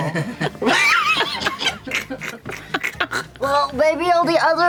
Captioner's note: laughter